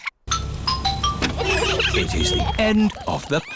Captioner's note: trumpets; horns honking